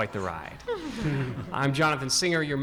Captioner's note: audience laughing